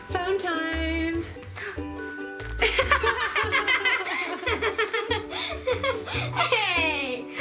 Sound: gasp; laughing

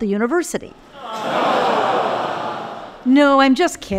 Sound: crowd moans

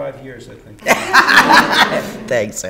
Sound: laughter

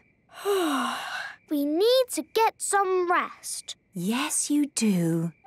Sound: yawning

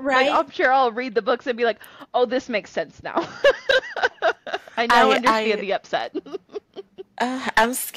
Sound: laughter

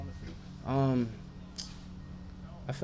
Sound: tongue clicking

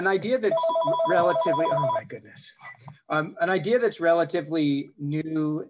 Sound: phone ringing

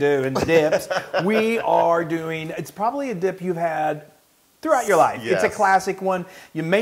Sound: laugh

